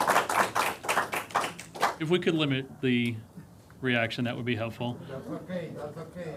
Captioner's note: applause